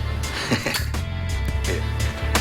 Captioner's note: chuckles